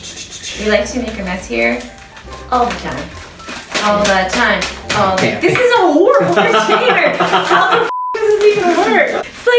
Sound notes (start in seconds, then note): 6.0 laughs loudly